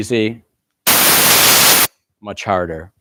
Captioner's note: static